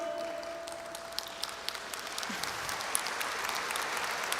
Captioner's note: audience applauds